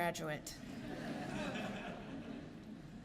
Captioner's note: laughter